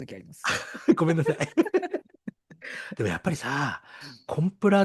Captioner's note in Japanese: 笑い